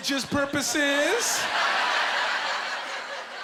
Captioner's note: laughing